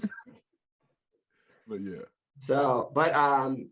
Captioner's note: all laugh